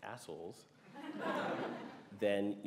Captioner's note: laughter